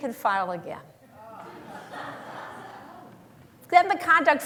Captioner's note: laughter